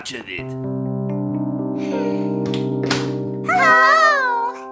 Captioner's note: moody music; Nellie sighing